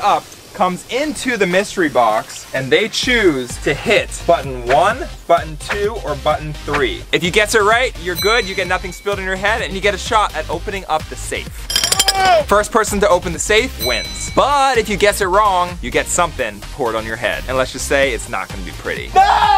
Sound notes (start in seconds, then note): 11.6 jackhammer noises; 13.8 bell rings; 19.1 group screams